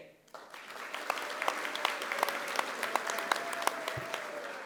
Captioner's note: audience applauding